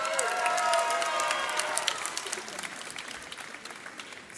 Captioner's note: audience cheers